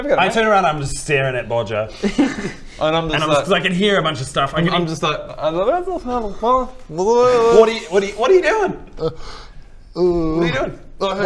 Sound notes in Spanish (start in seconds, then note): 5.4 murmullo inocente; 10.0 bostezo